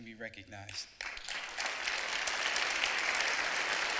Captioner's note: clapping